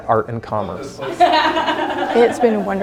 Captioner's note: ticket seller laughing